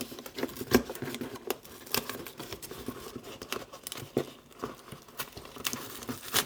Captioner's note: plastic crinkling